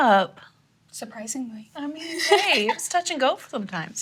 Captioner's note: laughs